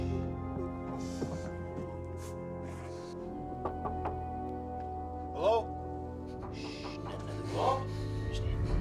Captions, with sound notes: HELLO? SHHH, NOT ANOTHER WORD, UNDERSTAND? SHHH. HELLO? [KNOCKING]